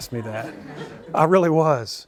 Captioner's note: laughter